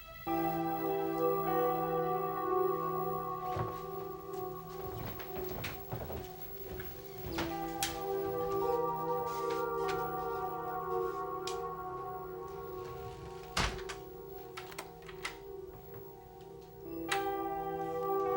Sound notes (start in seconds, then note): 0.2 ominous electronic music; 14.5 lock clicking